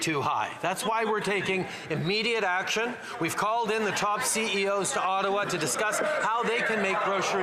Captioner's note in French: voix de l'interprète